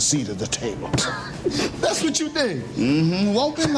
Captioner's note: chuckles